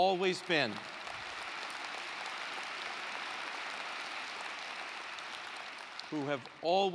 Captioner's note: applause